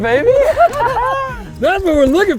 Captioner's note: both laughing